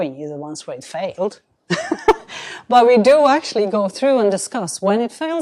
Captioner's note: chuckles